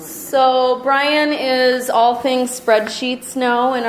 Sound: voiceover

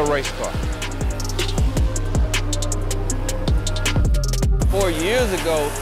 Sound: car engine revving

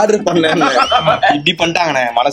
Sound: laughs

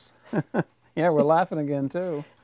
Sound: laughing

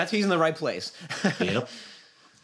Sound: chuckles

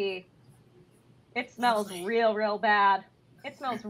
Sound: quietly

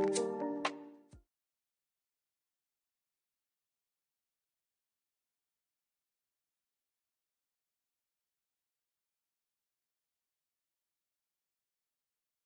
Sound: moment of silence

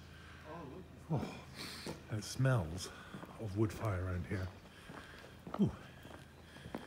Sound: sniffs

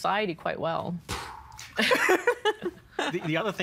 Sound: imitating explosion, laughing

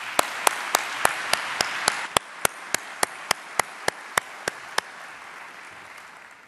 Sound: applause

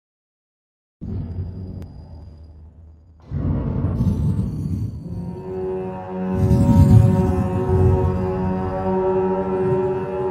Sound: sound of dark cave

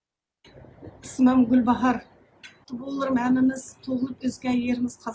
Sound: non-english speech

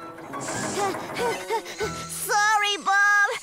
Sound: panting

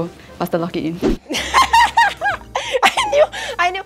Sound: laughs

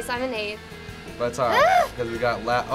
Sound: groans

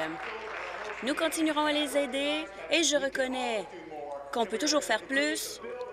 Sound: applause

